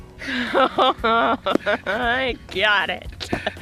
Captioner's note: laughing